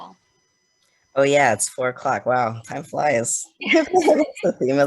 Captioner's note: both laugh